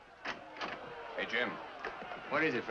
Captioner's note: door opens